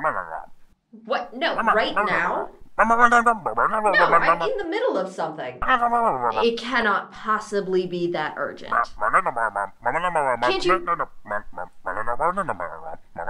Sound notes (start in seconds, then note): 3.9 angry distorted voice; 7.2 angry distorted voice